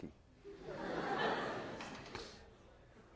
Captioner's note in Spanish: clase se ríe